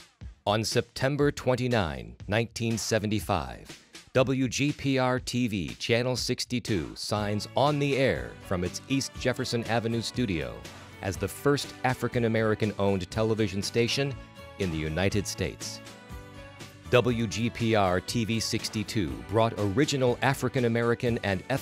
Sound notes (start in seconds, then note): none